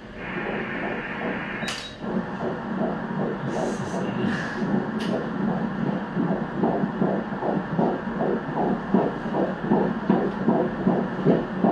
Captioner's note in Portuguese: batidas do coração